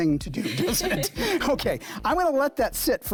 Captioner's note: students laughing